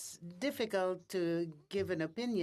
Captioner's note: speaking in French